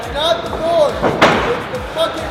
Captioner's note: thumping